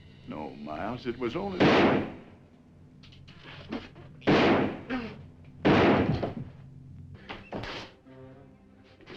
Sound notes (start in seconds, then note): 1.8 gun firing; 6.3 dramatic music